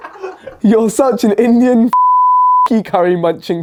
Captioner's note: laughs; beep